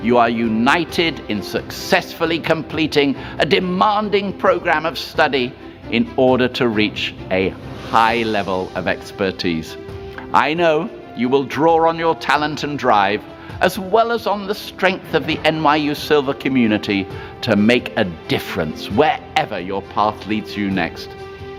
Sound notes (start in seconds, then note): none